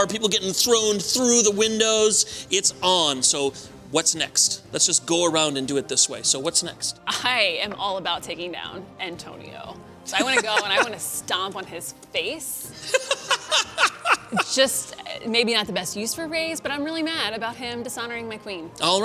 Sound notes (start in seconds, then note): 10.1 laughter; 12.8 laughter